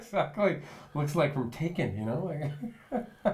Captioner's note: laughing; laughs